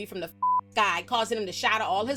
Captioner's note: beep